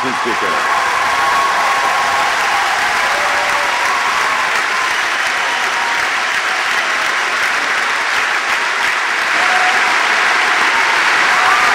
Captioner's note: vigorous applause and cheers